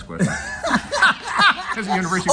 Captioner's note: laughs